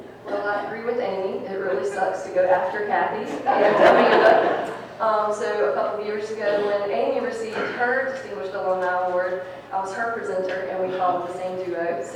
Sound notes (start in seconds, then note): 3.6 people laughing